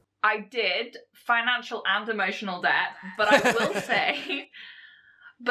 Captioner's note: host laughs